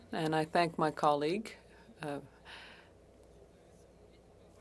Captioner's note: speaking French